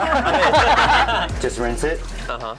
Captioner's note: all laugh